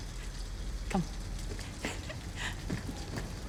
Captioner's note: laughs